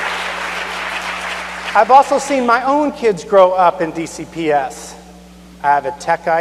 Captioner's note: cheers and applause